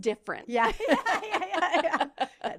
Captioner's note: both laughing